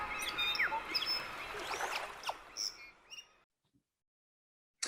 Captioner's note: birds chirping; sloshing water